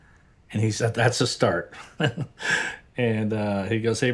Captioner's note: chuckles